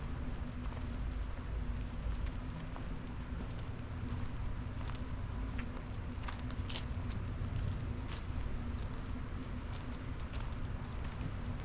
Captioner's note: deep forest rain ambience; distant bird calls; soft rain on forest canopy